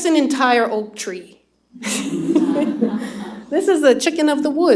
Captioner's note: laughter